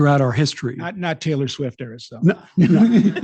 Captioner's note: laughing